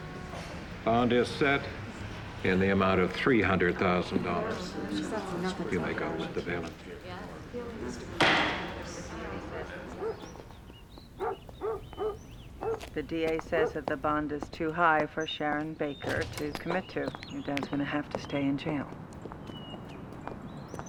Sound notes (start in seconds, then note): 3.0 crowd murmurs; 8.1 gavel bangs; 8.4 dog barks in distance